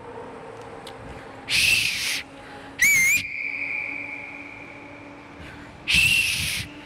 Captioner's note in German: ich versuche zu pfeifen